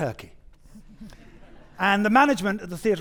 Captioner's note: audience chuckling